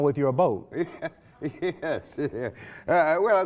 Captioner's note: laughs